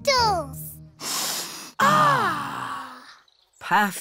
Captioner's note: all sniff